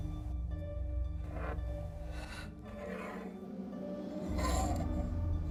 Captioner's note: scraping